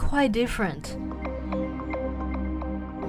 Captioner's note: voiceover